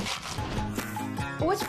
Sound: crash

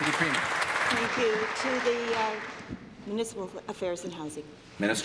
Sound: applause

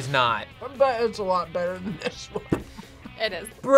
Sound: laughs

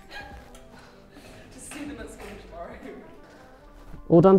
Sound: both laughing

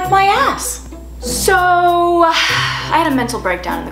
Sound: exhale

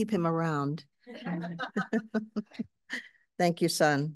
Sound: audience laughing

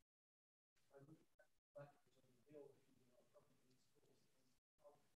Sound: faintly speaking

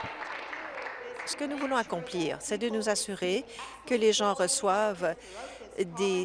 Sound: applause

